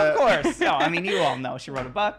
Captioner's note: laughing